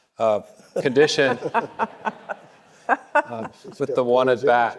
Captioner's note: panelists laughing; audience laughing